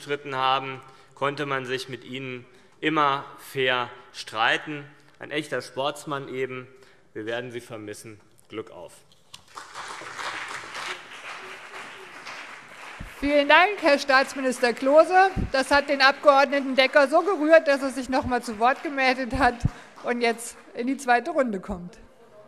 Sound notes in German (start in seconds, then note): 8.8 Beifall CDU, BÜNDNIS 90/DIE GRÜNEN und SPD